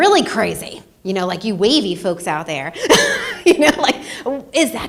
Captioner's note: laughs